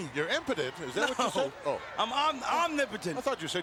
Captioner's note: laughs